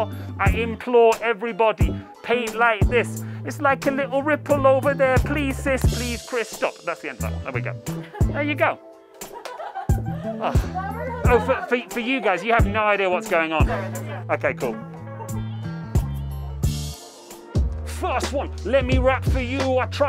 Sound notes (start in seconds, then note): 9.5 laughing; 15.3 hiphop music